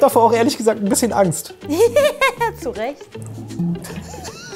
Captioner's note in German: Gekünsteltes Lachen